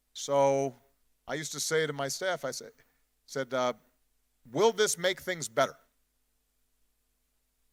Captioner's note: none